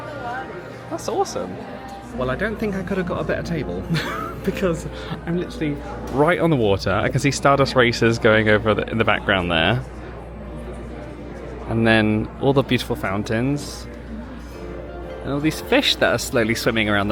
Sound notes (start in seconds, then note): 3.8 chuckles